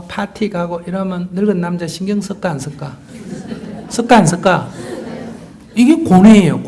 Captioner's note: audience Laughter